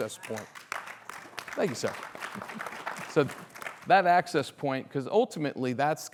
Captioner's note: applause